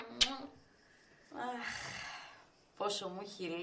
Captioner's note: stella sighs